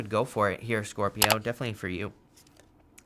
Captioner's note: button clicks